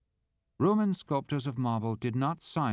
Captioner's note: voiceover